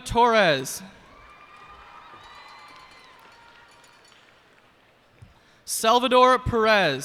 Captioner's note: cheers and applause